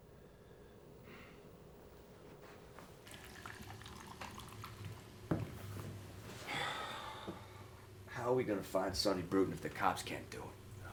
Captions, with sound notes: (soda sloshing) (soda can thuds) (Addison exhales loudly) - How are we gonna find Sonny Bruton if the cops can't do it?